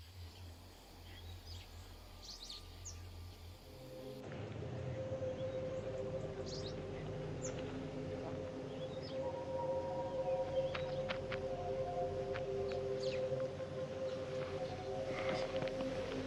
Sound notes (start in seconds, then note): 4.4 birds chirping; 4.4 light music